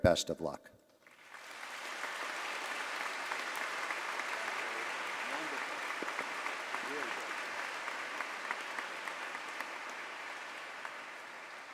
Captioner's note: applause